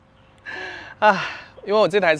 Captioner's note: sighs